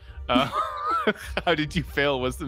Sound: laughs

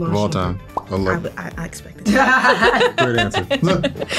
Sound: all laugh

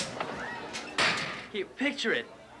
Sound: locker thuds

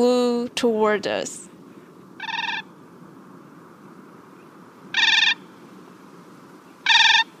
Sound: Siberian Crane calls

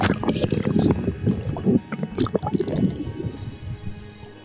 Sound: bubbling

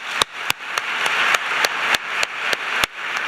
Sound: applause

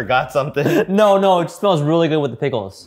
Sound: laughing

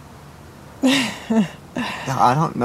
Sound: laughs

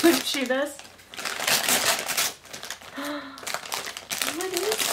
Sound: paper ripping

